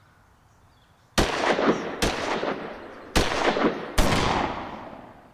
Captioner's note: gunshots